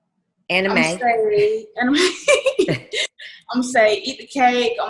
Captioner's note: laughs